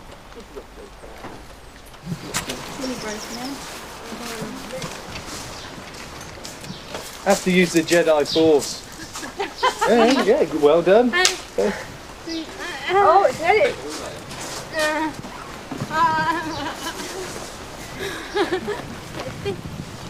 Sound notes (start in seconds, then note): 8.8 everyone laughs